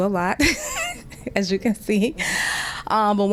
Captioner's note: laughter